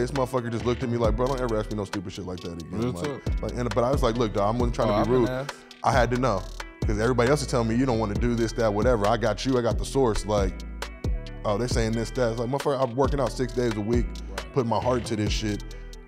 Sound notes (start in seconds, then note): none